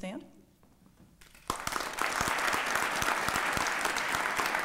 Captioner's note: applause